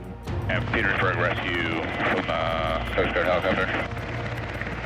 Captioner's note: man On Radio